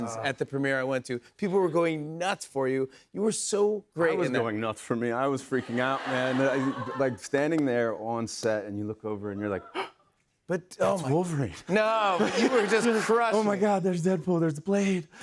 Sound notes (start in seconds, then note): 5.6 laughter; 9.7 gasps